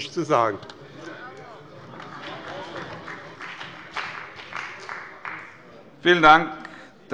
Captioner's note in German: Beifall bei dem BÜNDNIS 90/DIE GRÜNEN und der CDU